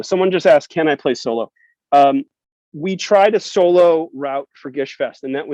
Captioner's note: none